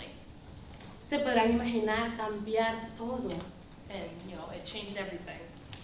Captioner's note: speaking spanish